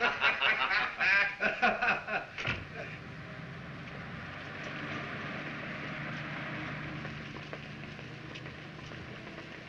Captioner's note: both laugh